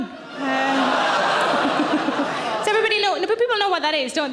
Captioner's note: audience laughing